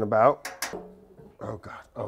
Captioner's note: utensil clanging; pan clanks